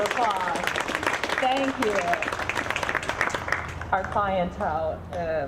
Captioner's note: audience clapping